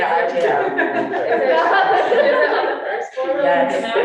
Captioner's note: all laughing